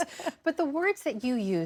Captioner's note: laughter